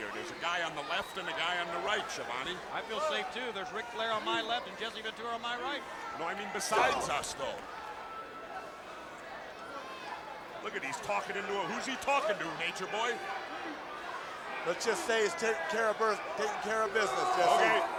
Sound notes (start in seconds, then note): 9.0 crowd chattering